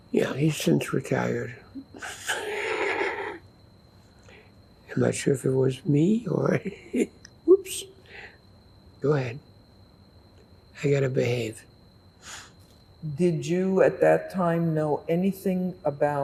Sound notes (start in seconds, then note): 1.7 laughing; 6.5 laughing